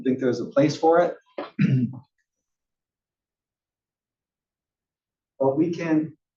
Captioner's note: cough